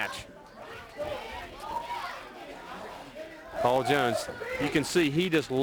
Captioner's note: crowd chatter